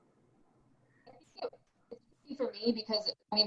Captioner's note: mic cracking